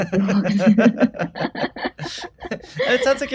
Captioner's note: both laugh